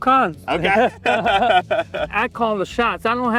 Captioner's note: laugh